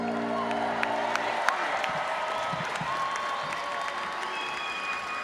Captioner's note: audience applauds